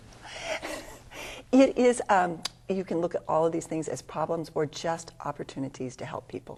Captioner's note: laughs